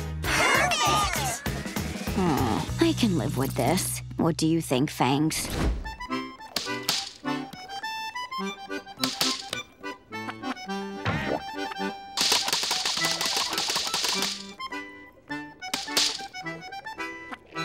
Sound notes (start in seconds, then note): 12.0 pencil slapping